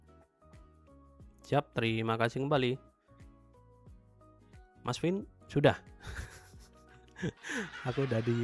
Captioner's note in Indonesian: tertawa